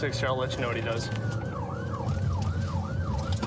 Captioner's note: siren blaring